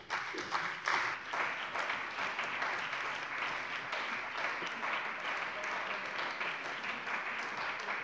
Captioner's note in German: Beifall bei dem BÜNDNIS 90/DIE GRÜNEN und der CDU